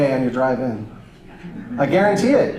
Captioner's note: audience laughter